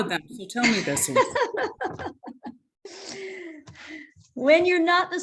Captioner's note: laughter